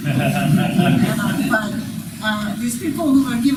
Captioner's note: laughing